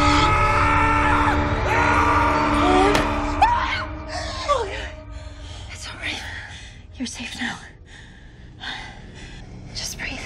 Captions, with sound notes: [screams] It's all right. You're safe now. Just breathe.